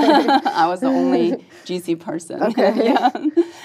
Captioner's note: laugh; laugh